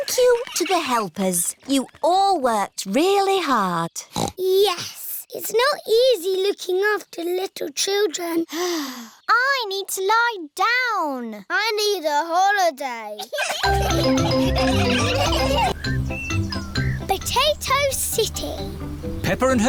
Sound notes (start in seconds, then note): 8.9 sighs; 13.2 all laughing